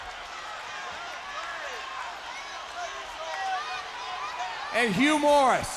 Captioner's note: crowd cheering